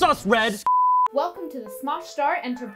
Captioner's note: high pitched tone